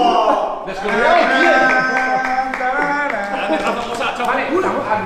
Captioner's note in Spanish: tararea canción rocky balboa